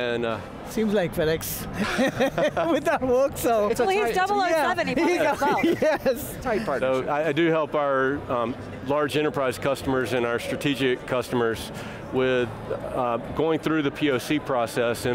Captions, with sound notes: >> Seems like FedEx (laughing) with that works so. >> It's a tight team. >> Please double.... (laughing with chatter) >> tight bunch >> So, I do help our large enterprise customers and our strategic customers with going through the POC process.